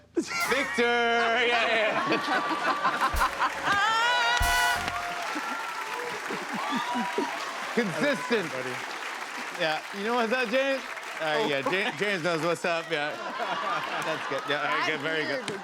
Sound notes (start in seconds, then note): 2.7 laughter; 4.7 cheers and applause